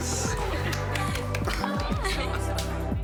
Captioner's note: clapping